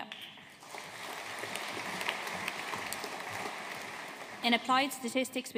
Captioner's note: audience applauding